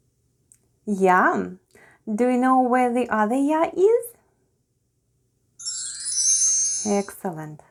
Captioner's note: chimes sound